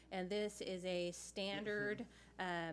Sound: none

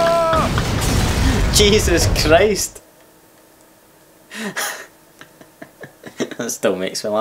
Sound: laughs

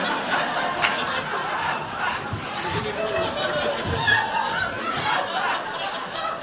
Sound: audience laughing

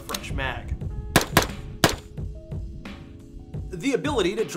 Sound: gunshot firing

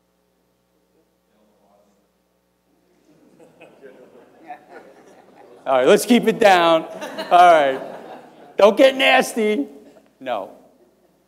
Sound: laughter

